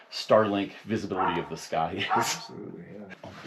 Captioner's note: titters